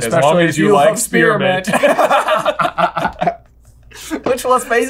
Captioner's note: laughing